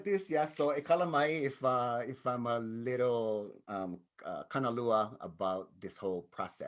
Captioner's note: speaks in native language; speaks in native language